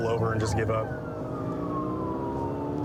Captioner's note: siren blaring